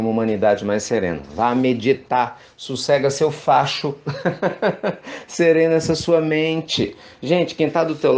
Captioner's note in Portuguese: risos